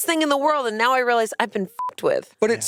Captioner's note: beep